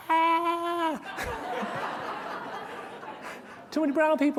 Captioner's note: laughter